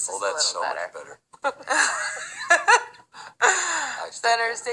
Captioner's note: both laughing